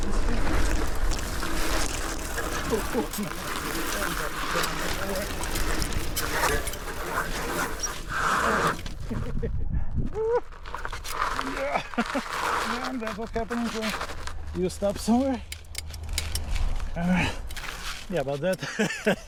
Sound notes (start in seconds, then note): 7.1 laughter